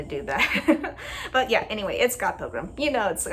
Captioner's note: laugh